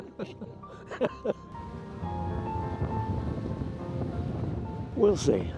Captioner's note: water spraying